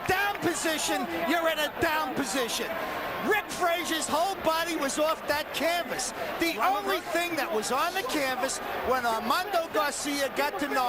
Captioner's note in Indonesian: Tepuk tangan